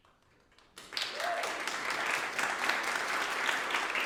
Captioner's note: applause